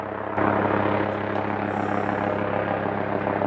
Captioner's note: helicopter flying